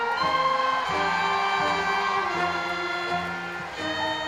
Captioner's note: crowd cheering